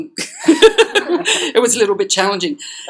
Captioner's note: laughter